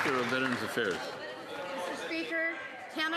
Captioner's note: some Applause